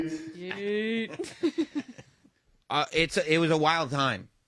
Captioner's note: laugh